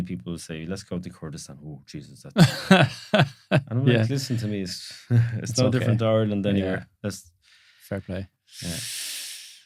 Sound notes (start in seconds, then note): 2.4 laughing